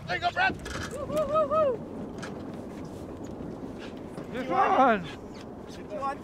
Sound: whooping

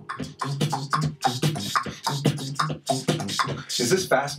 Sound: Mr. Max and Mr. Root beatboxing fast

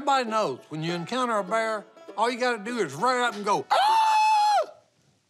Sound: screaming

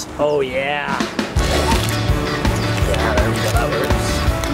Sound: upbeat music; fingerboard scraping

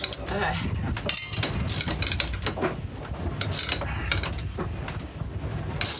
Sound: pulley clanking

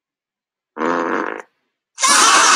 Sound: toot Sound from Whoopie Cushion; Crowd Laughing, Even Spongebob

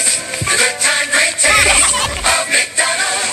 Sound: Minions Laughing

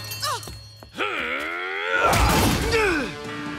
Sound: grunt

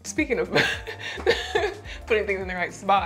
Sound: laughing

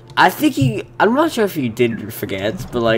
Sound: none

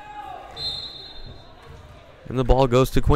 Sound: whistle blowing

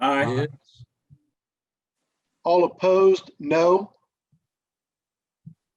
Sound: silence

